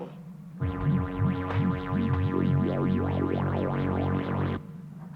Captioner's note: energy warbling